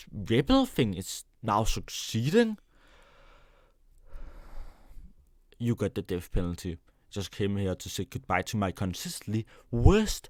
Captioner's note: deep breath